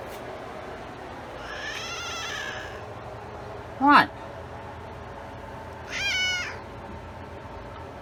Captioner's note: Caprice meows angrily